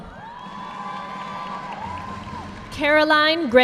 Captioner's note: audience clapping